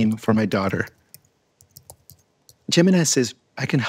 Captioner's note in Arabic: نقر على لوحة المفاتيح